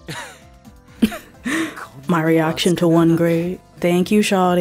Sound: chuckle

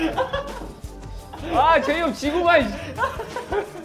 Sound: laughing out loud

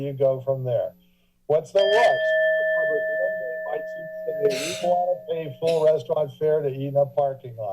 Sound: alarm ringing

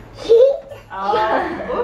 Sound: giggles

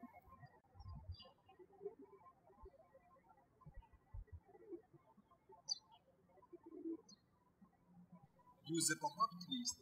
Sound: birds chirping

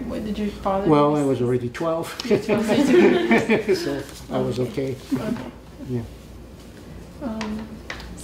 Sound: all laugh

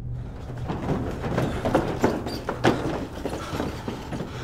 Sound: footsteps thudding

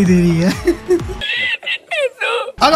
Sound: laughing

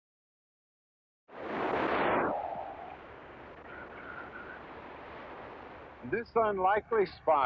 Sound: waves crashing

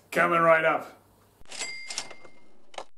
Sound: cash registers dings

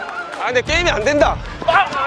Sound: confident

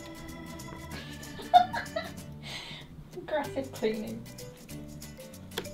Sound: laughs

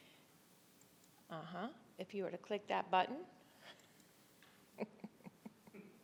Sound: chuckles

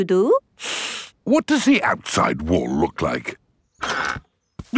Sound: inhales sharply

